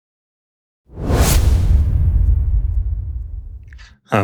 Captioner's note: logo whooshing